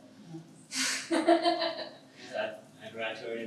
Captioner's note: laughs